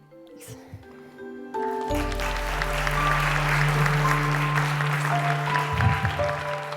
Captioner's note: applause